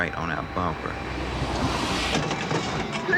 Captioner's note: car crashing